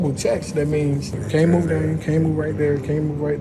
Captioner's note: murmurs softly